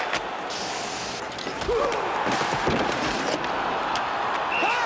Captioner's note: groaning